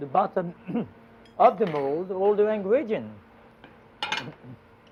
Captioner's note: clears throat